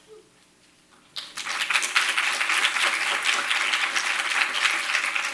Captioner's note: audience applauds